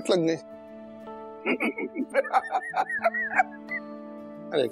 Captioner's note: laughs